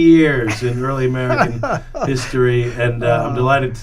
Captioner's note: laughs